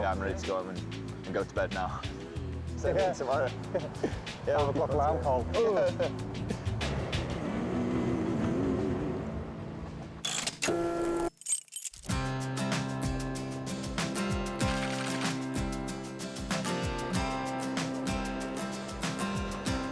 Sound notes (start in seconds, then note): 10.3 machine humming; 11.0 tool clicking; 11.1 keys clinking; 12.1 mellow soft rock music; 14.6 text clicking